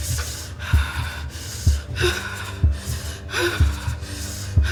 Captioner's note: speaker shivering